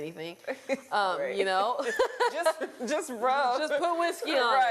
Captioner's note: laughter